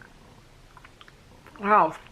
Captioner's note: crunching